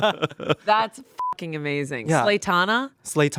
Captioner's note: everyone laughs; beep